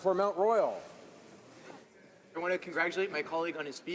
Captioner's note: speaking French